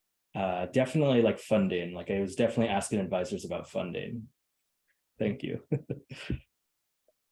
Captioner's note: laughs